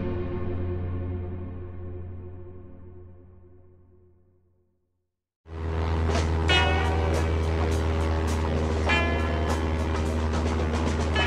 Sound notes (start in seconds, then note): 5.4 airplane propeller motor; 8.9 upbeat musical theme